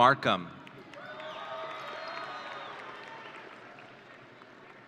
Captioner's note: audience cheering